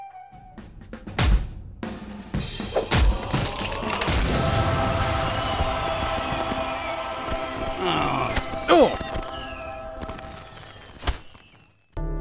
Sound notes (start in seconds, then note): 4.3 cheers/fireworks/music gets triumphal; 7.8 civilian gasps; 12.0 sad music plays